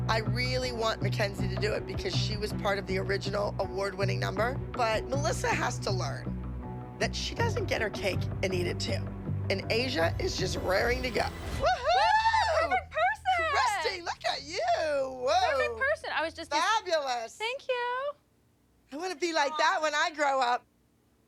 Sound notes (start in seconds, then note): 11.6 cheering